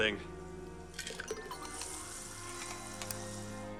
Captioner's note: fizzing